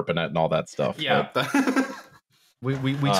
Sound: laughs delightfully

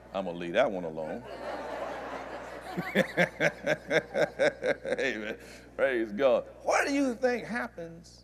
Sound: laughter

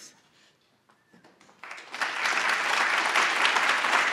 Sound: applause

